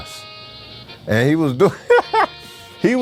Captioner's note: laughs